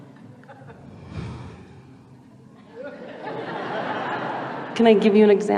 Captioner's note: the laughter grows louder